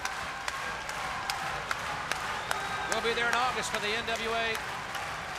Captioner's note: crowd cheering